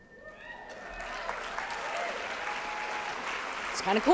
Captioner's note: applause